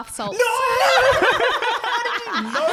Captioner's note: laughing